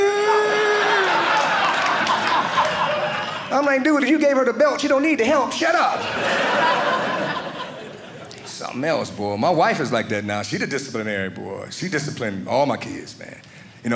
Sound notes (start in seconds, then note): 0.7 audience laughing; 5.9 audience laughing